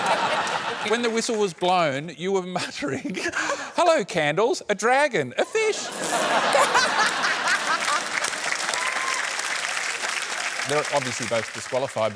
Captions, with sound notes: When the whistle was blown, you were muttering, "Hello, candles! A dragon. A fish!" (LAUGHTER) They're obviously both disqualified,